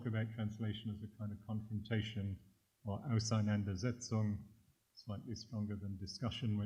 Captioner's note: german